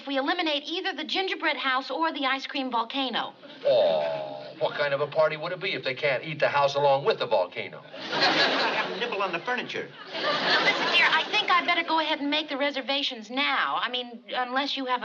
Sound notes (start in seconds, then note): 10.3 on phone